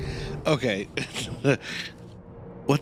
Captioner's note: laughs